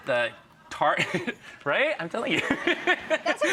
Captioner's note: laughing